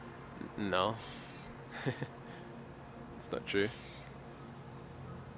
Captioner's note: laughing